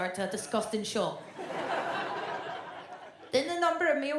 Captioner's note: audience laughs